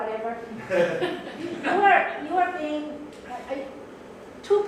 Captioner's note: crowd laughs